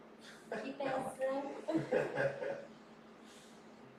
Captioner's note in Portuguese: risos